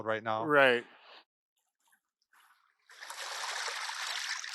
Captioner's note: water flowing